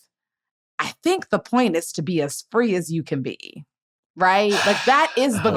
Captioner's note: laughs